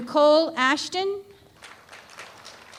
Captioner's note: applause